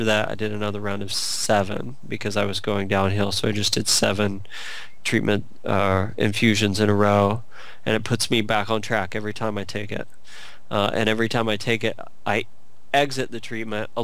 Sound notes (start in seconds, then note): none